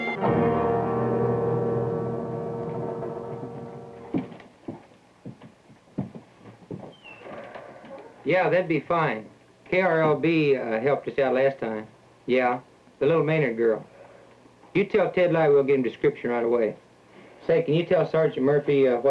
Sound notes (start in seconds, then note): 0.0 music fades out; 2.6 footsteps